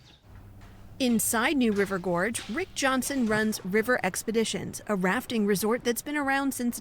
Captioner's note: voice-over